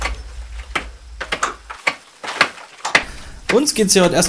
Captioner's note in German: Pickgeräusche, Metall auf Stein